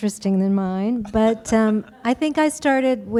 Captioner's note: laughter